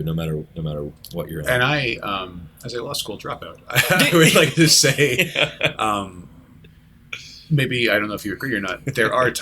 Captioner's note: laughter